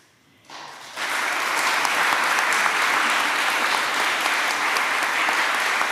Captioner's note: applause